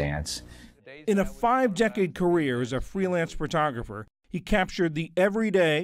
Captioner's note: voice-over